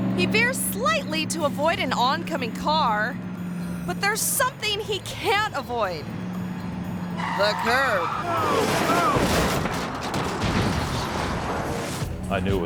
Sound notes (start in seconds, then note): 7.9 tire squealing; 8.5 monocycle crashing